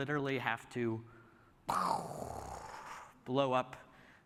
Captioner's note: imitating explosion